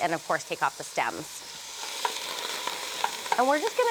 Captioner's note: sizzling